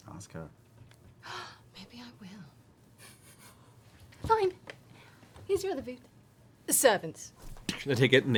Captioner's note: gasps